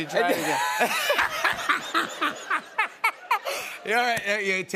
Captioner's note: laughter